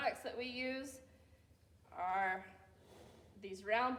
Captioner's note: none